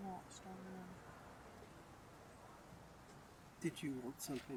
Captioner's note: wind